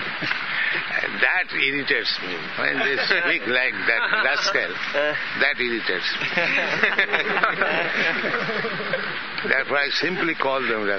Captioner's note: laughter